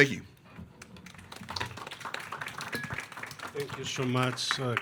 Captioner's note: attendees clapping